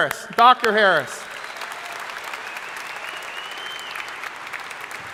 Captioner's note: crowd applauding